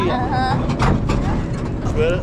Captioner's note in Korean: 덜컹